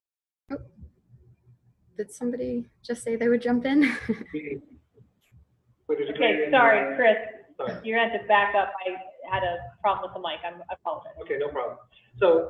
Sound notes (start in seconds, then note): 6.0 laughing